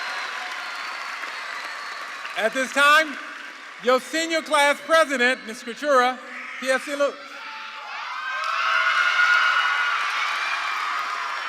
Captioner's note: cheers